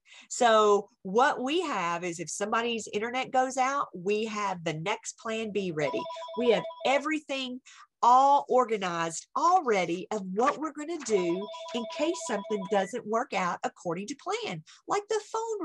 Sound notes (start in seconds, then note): 5.8 phone rings